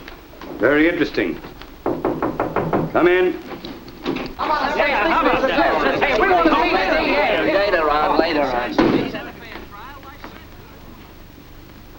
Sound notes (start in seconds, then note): 1.8 knocking on door; 4.3 chatter